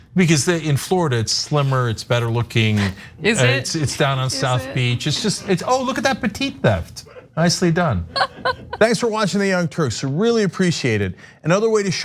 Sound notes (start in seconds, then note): 8.1 laugh